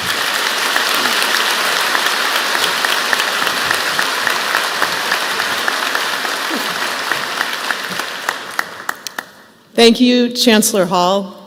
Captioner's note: applause